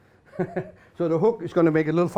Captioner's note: laughs